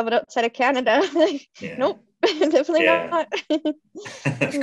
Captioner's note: laughs